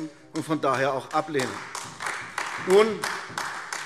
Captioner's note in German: Beifall AfD